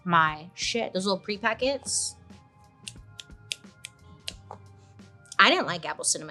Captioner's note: clicking fingers